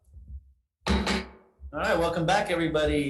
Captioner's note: chair bangs gavel